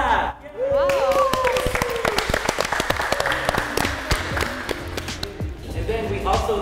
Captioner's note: clapping and joyful shouting